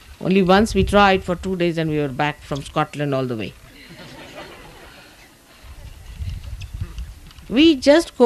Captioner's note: laughter